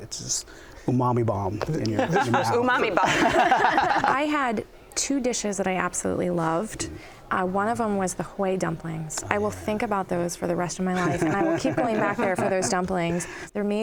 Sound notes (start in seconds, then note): 2.0 laughter; 10.9 laughter